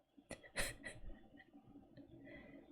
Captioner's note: laughs